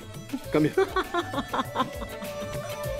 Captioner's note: Ana laughing